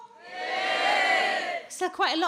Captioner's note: audience cheers